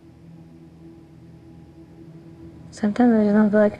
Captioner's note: sad humming